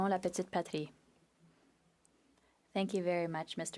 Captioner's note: speaking French